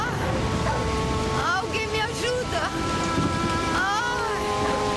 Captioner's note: yells